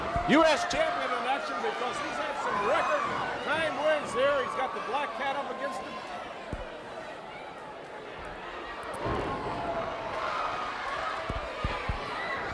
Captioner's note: crowd chatter